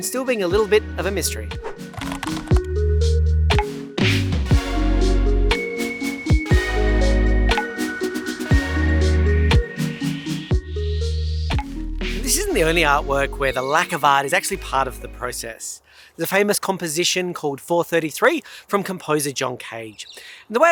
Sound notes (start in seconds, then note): 1.6 air whooshing; 1.9 keyboard clicking; 2.6 downtempo music